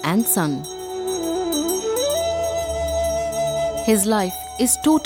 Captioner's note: bell jingling